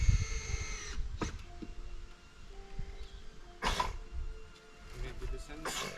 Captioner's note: drill whirring